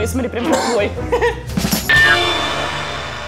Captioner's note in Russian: Кашляет